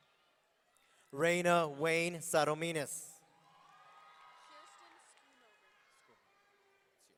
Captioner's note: audience cheering